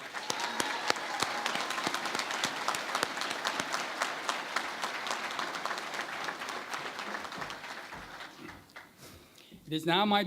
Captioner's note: cheering and Applause